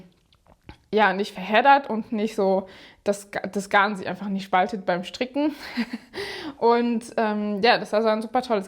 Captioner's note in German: gelächter